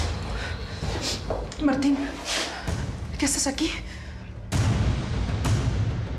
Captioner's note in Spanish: manotazo